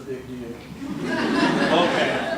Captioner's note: laughter